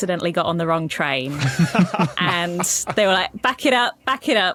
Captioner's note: others laughing